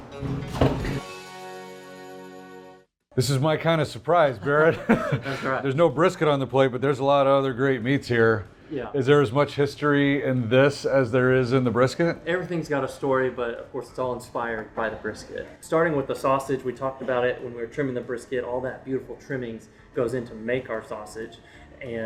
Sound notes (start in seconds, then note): 0.3 soft guitar music; 4.4 laughing